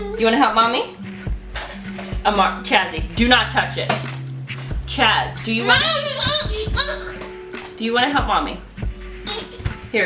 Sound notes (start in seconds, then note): 4.5 starts jumping up and down making funny noises; 9.2 affirmative baby noises